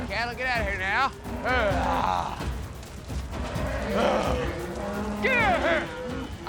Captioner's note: prompting cattle, mooing